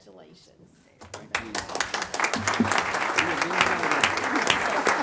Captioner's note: audience applauding